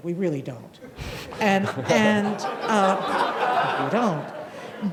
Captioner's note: audience laughing